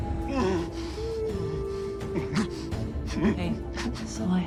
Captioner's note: Jacob moaning